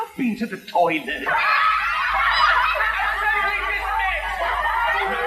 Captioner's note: laughing